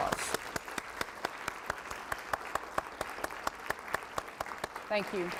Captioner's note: clapping